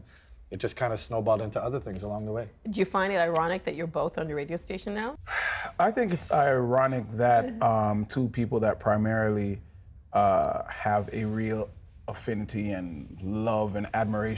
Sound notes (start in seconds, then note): 8.6 sighs; 9.5 whispering